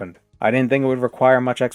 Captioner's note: none